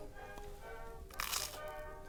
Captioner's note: Crunch